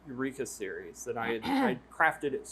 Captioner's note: clears throat